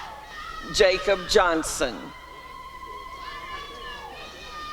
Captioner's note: applause and cheering